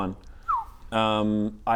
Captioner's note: whistle